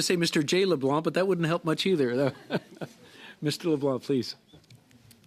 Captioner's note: laughter